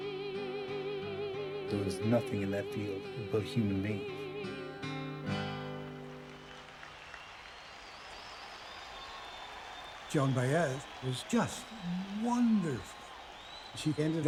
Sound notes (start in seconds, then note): 7.3 song ends, crowd cheers